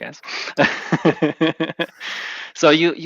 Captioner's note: laughs